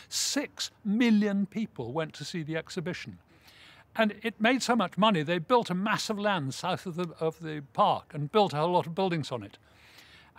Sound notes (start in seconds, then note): none